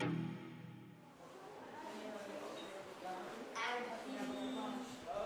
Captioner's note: mixed chattering